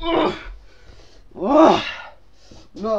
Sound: groaring

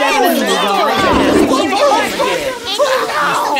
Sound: toilet flushing

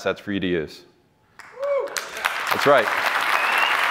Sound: cheering

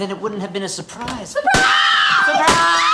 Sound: screams

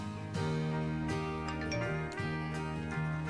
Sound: cell phone chimes

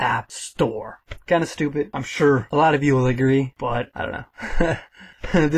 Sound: haha

